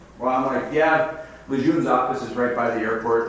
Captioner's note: none